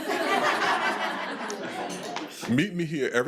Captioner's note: attendees laughing